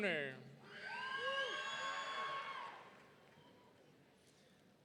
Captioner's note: audience cheering